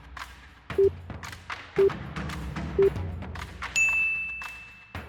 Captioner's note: upbeat music; countdown tones; bell dings